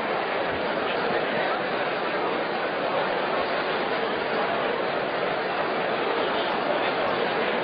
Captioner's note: general chatter